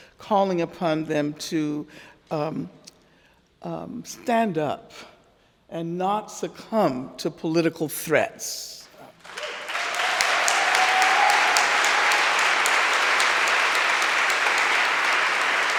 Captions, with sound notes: calling upon them to stand up, and not succumb to political threats. (audience cheering and applauding)